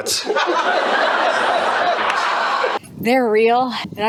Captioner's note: laughter